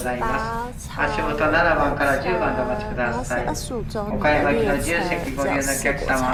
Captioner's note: train announcement and waiting for the tram